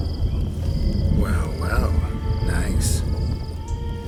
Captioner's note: birds, insects chirping